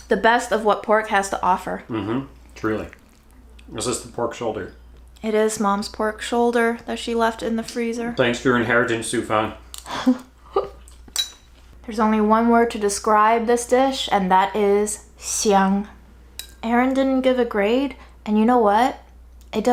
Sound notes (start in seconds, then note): 9.8 laughs; 14.7 speaking Chinese